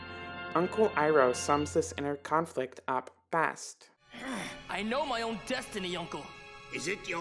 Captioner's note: groans